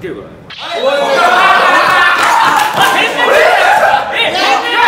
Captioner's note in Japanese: 爆笑